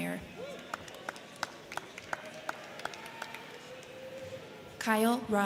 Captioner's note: crowd cheering; crowd clapping